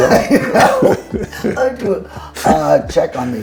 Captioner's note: both laughing